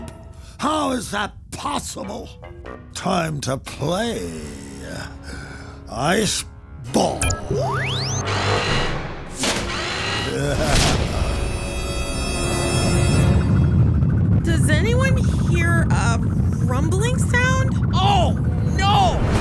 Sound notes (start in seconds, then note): 7.3 ship whirring; 10.3 Hacker laughs; 11.0 tense music